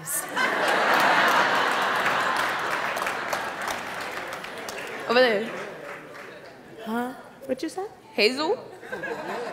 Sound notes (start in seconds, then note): 0.1 audience laughing